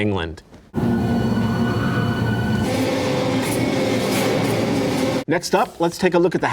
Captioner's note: suspenseful music; wind blowing